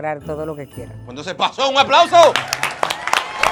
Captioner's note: applause